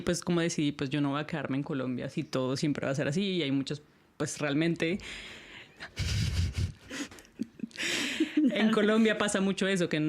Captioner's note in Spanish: risas